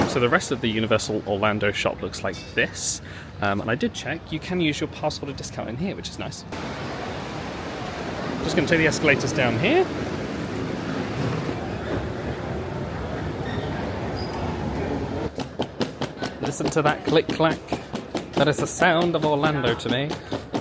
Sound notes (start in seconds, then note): 12.0 crowd chattering; 15.6 luggage clicking